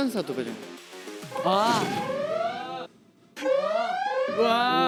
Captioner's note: the alarm rings again